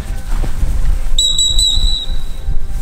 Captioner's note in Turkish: düt düt düt